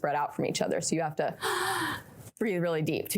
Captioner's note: deep breathing